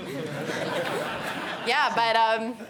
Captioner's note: laughter